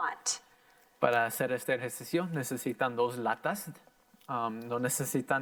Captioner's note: in foreign language